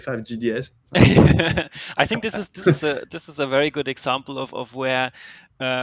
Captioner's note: laughs